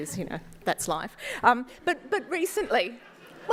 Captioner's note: laughter